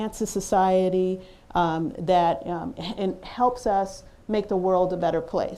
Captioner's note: none